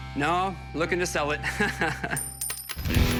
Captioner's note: laughs